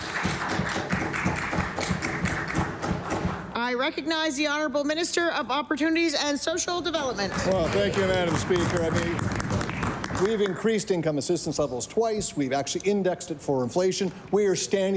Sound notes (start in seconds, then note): 5.2 applause